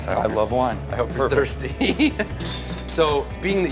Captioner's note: laughs